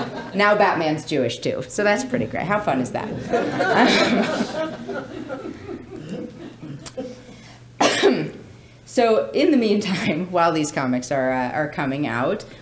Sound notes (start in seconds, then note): 3.1 laughing